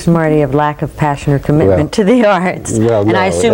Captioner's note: laughs